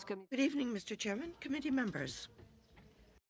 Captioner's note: speaking in french